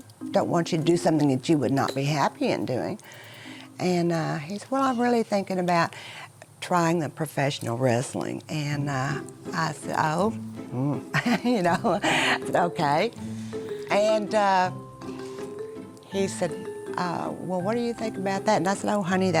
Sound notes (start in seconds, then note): 10.9 laughs